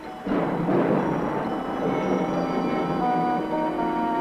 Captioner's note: thunder rumbling